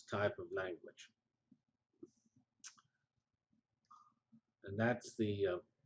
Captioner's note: pause